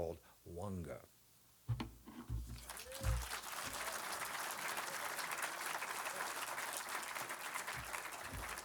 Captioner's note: applause